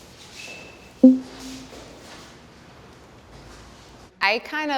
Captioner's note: poll result beeps